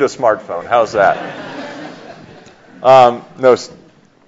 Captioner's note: light laughter